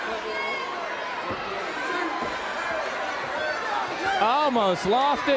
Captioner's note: crowd cheering